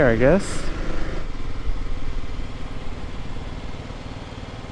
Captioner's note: bike engine revving